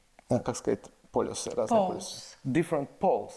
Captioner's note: speaks in foreign language